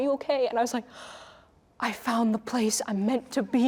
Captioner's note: inhaling